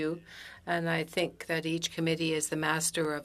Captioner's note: speaking French